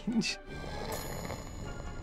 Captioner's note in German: schnarcht